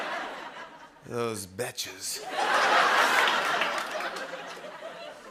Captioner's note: laughter; laughter